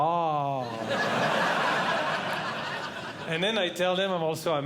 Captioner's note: audience Laughing